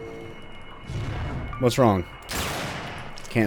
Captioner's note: bam